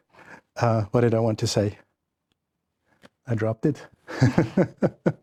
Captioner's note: laughing